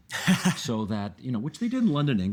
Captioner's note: laughing